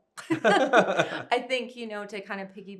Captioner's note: both chuckling